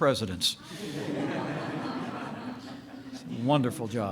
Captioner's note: laughter